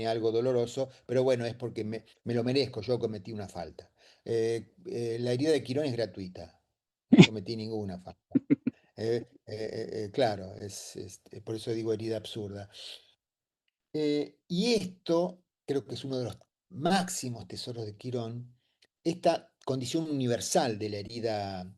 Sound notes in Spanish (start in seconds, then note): 8.4 risas